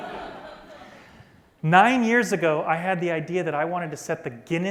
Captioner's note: laughter